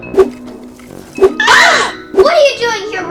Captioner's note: screams